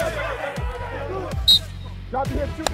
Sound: whistle

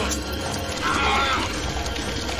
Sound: centipede screams

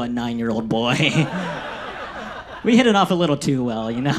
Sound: audience laughs

